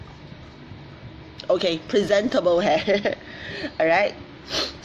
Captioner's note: laughs